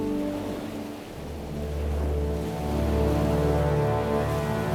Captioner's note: waves splashing